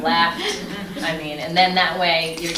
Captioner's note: laughing